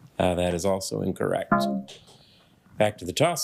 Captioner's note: electronic beeping